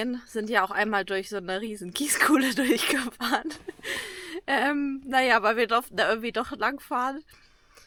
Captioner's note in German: gelächter